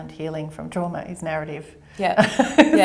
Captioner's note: laughs